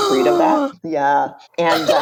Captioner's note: gasps